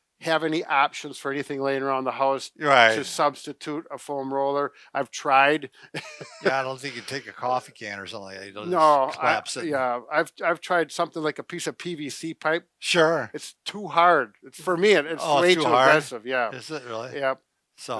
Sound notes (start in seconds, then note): 5.9 chuckles